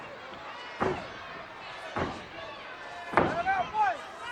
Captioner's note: feet stomping